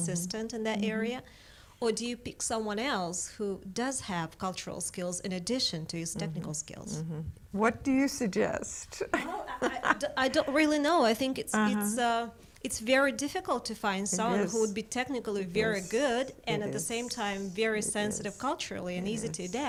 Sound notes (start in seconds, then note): 9.1 laughs